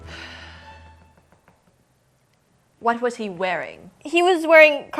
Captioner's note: sighs